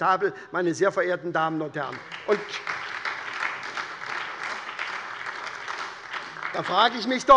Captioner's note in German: Beifall bei der SPD